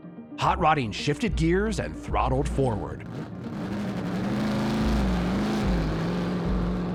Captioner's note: engines revving